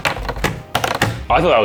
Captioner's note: scale clatters repeatedly